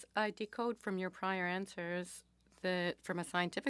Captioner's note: speaking French